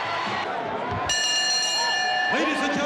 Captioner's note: bell chimes